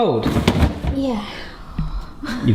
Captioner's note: freezer drawer thudding